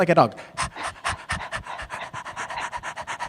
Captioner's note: panting